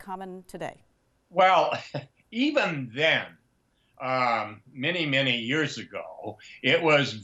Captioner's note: chuckles